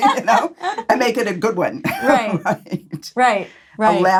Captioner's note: laughs